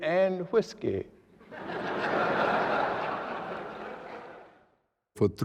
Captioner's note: laughter